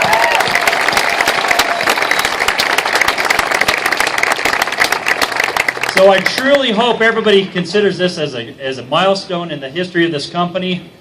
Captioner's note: applause